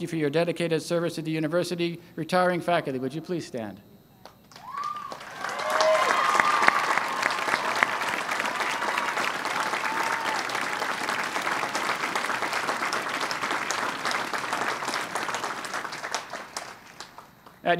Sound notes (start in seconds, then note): 4.5 cheering and applause